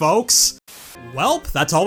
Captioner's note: static